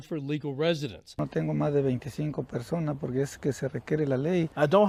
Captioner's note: speaking foreign language